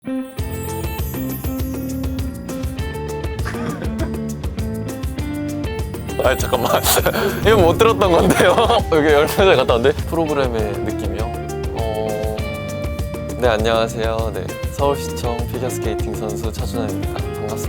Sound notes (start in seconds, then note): 1.4 exciting music; 3.4 laughter